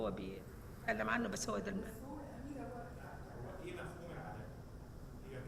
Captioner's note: speaking foreign language